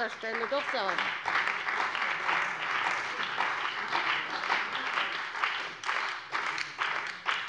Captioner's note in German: Beifall bei der CDU und dem BÜNDNIS 90/DIE GRÜNEN